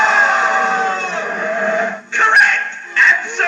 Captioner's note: Screech